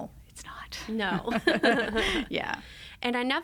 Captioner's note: both laugh